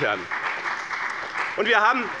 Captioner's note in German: Beifall bei dem BÜNDNIS 90/DIE GRÜNEN und der CDU